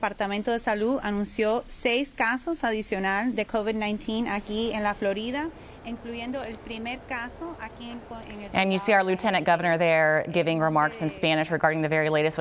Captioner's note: speaking spanish